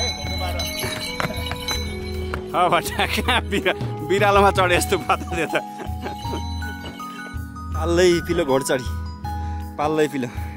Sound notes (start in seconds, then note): 2.5 laughter